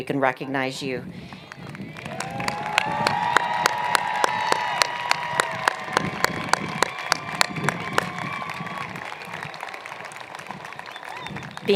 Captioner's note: cheers and Applause